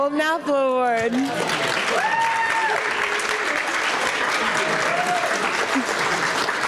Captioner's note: audience cheering & applauding